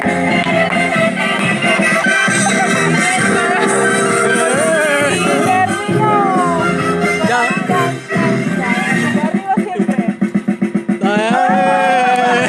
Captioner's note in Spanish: Risas